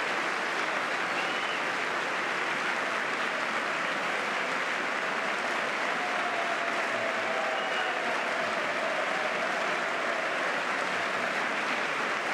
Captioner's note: applause